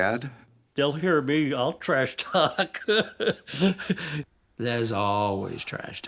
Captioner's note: laughs